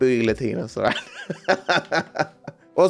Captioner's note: laughs